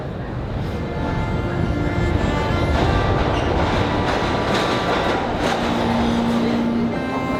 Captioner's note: subway clicking; dramatic violin music